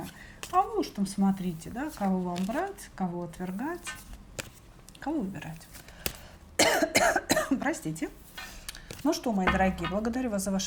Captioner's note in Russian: кашель